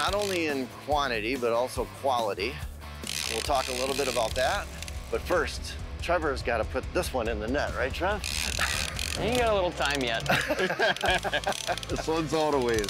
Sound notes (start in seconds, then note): 8.1 fishing reel zinging; 10.1 all laughing